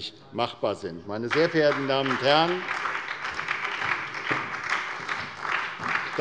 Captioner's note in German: Beifall bei der SPD